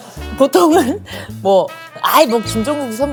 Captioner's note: laughs